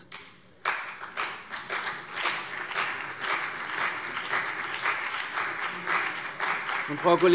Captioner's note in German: Beifall CDU und BÜNDNIS 90/DIE GRÜNEN